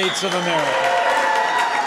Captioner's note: applause